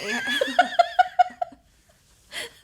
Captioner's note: laughs